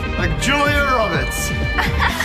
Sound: chuckles

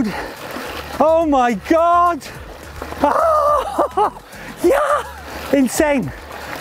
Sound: laughs

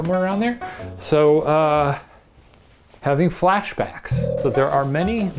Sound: spooky sound

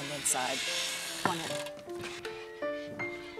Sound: door creaking

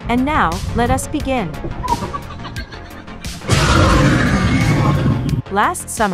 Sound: demogorgon cries

